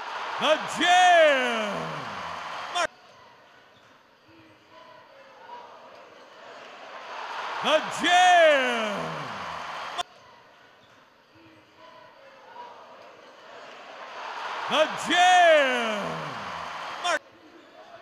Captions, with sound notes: The jam! (cheers) The jam! (cheers) The jam! (cheers)